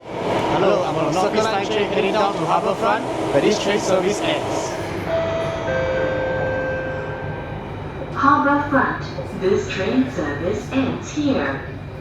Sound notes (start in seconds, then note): 5.0 announcement chime